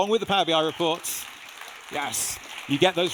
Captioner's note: audience applauding